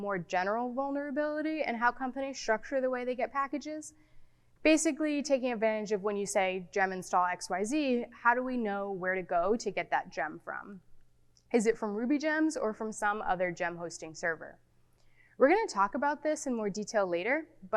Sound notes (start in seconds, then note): none